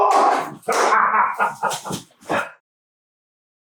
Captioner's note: Crank laughing